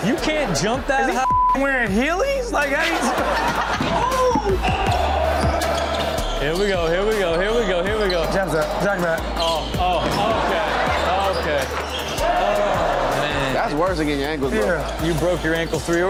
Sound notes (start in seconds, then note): 1.2 beep; 3.0 crowd shouting